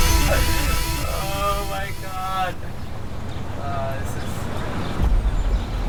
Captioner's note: laughs